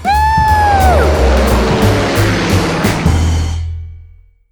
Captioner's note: plane roars